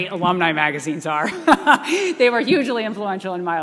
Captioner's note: laughing